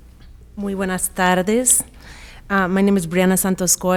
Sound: speaking in foreign language

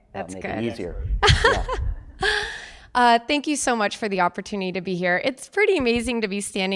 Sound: laugh

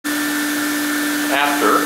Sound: machine humming

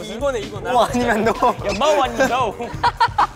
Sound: laughing

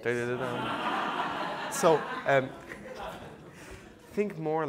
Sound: audience laughing

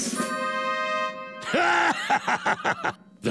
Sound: laughing

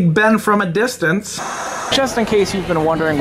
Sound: static hissing

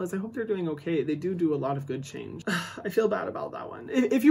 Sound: sighs

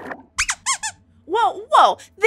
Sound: squeaks squeaks

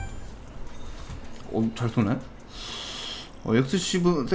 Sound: pensive inhale

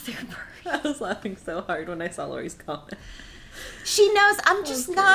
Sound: laughing

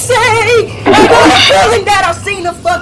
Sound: laughter

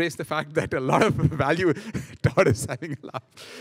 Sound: laughing

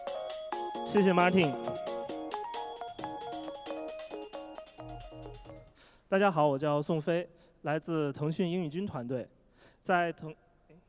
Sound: non-english speech

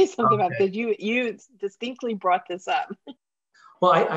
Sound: giggling

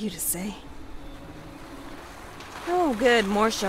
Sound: car pulls up

